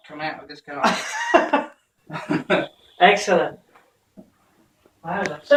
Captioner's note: laughter